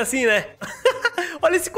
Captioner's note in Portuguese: risos